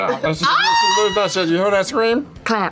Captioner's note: screams